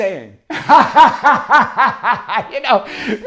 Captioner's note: laughs